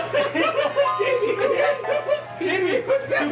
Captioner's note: all laugh